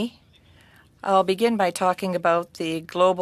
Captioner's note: speaking french